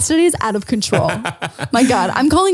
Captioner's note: laughs